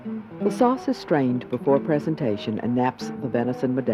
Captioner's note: voiceover